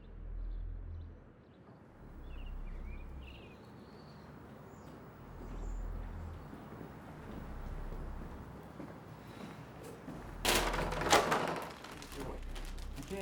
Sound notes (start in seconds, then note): 0.1 suspenseful dramatic music; 1.4 birds chirping; 5.3 suspenseful dramatic music continues; 10.4 police tape clatters